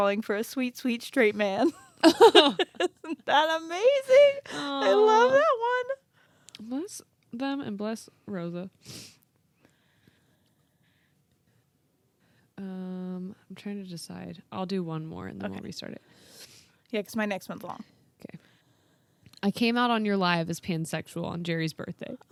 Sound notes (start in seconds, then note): 1.6 both laugh